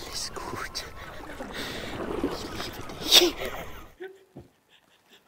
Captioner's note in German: lacht